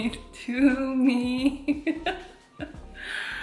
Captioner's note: laughs in korean